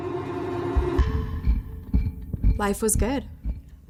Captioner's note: clock ticking